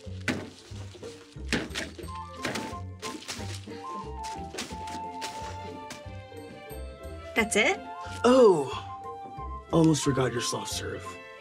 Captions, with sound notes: (jaunty music continues) (paper rattling) (table banging) That's it? - Oh, almost forgot your soft serve.